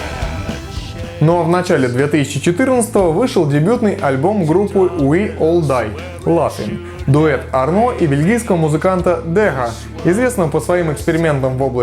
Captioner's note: laughing